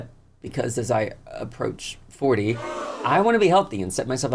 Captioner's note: audience gasps